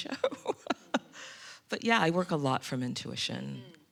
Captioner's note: laughs